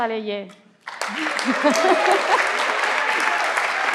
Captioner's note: everyone claps